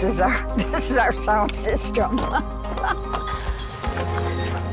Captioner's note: laughs; tent crackling; pensive music